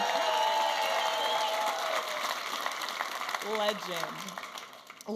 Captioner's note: audience applauding and cheering